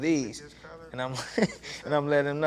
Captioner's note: laughs